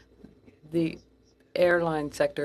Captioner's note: speaking French